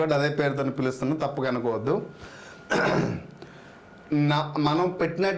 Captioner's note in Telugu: దగ్గు; గొంతు సవరించుకోవడం